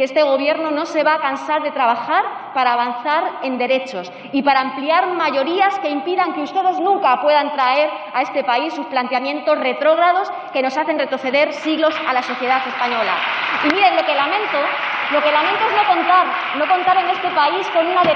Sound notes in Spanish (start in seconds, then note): 14.7 Aplausos